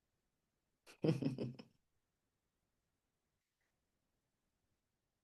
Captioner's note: laughs